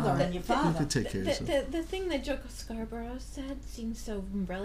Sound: voiceover

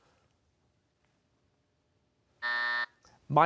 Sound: buzzer

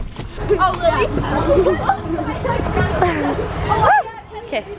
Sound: girls chattering

